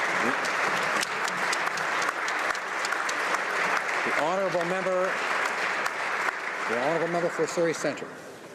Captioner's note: some Applause